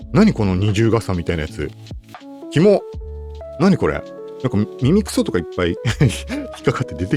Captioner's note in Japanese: 笑い